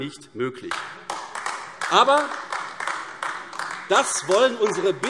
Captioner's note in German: Beifall AfD